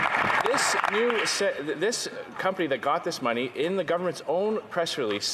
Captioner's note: some Applause